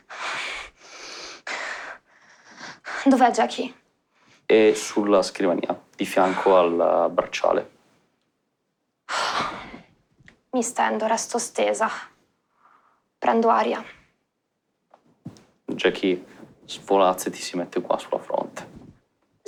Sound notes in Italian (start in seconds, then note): 0.0 Continua a boccheggiare; 9.1 Sospira